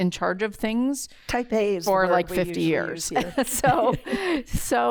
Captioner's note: laughter